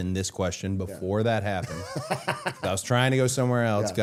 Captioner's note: Matt laughing